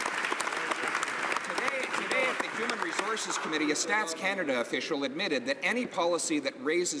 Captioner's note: some Applause